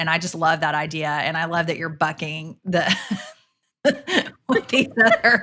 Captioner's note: laughs